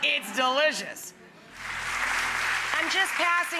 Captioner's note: audience applauds